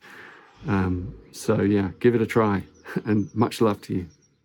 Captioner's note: chuckles